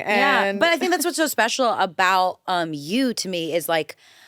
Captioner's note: none